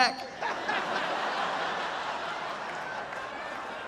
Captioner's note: audience laughing